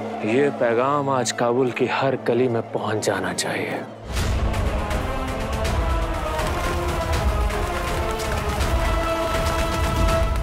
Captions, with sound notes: This message should reach every alley of Kabul. [sinister music playing] [wings flapping]